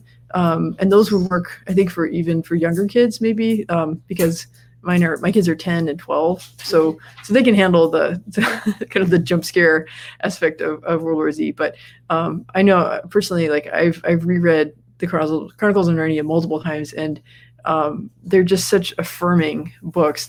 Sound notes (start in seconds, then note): 8.3 chuckles